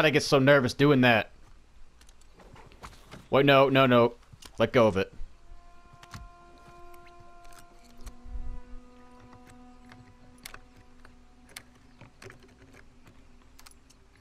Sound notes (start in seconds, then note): none